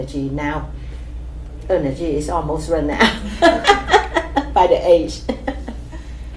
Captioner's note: laughs